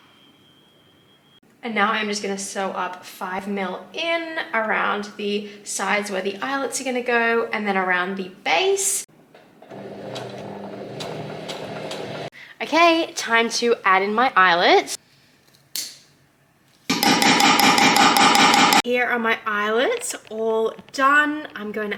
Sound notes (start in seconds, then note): 9.5 sewing machine chugs along slowly; 16.9 snipping and banging sounds